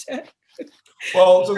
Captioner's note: laughing